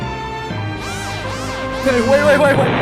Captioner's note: Lancer laughs